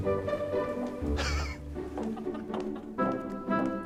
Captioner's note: laughs